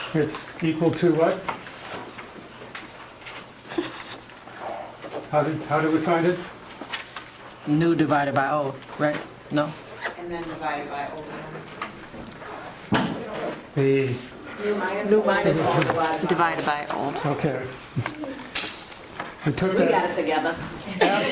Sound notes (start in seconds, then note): 14.1 class murmuring; 20.9 laughing